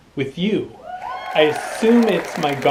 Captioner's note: people cheering